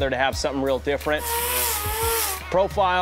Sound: metal grinder grinding metal

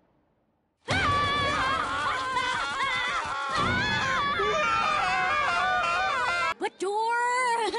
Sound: screaming

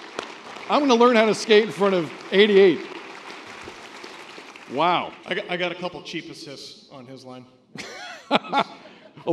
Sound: laughter

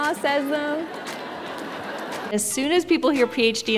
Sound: audience laughing

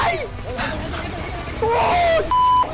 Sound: feint laughter

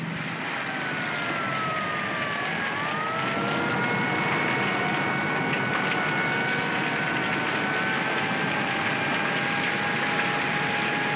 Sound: sirens wailing & flames crackling

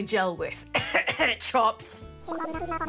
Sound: clears throat

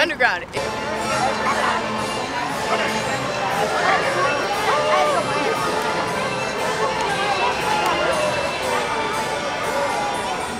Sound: crowd noise

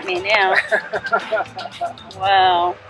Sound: laughing

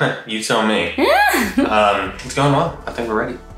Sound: laughing

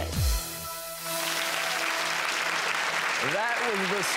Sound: applause

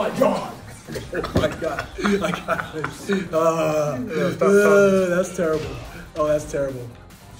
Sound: laugh

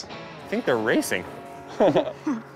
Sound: laughs

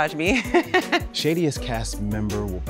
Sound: laughs

